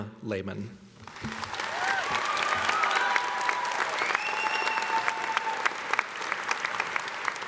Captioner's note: audience applauding; audience cheering